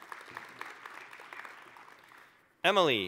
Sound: applause

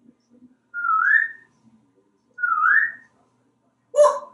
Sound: whistling

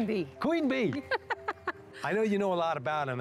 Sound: laughter

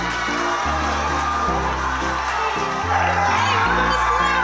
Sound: cheering

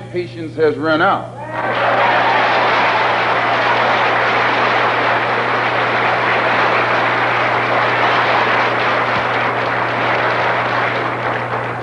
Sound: applause

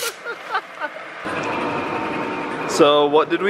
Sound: laughing

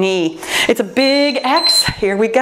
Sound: timer beeping

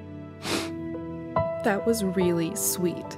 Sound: sniffs

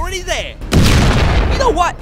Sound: explosion

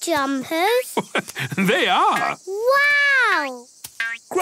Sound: laugh

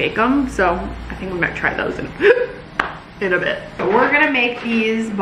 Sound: hiccuping

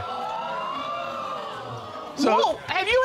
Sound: audience exclaiming

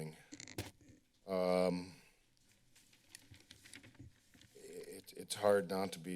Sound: paper rustling

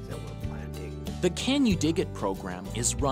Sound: voiceover

